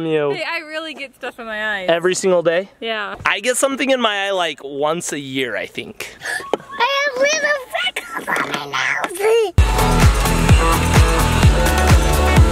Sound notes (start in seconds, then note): 6.1 gasps; 9.6 upbeat music